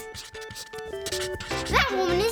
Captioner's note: laughs